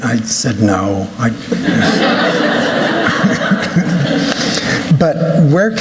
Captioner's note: laughter